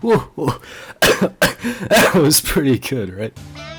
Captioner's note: actual cough